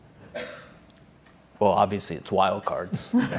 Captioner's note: laughter